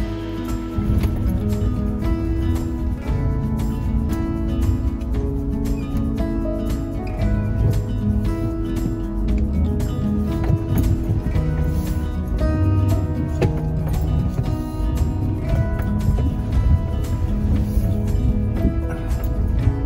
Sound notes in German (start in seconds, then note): 3.1 Geräusch des rumpelnden Motors des Autos